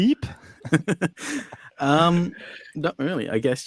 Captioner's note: group laughs